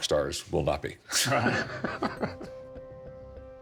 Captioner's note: both laughing